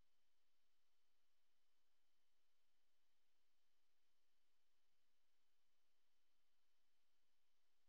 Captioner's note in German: none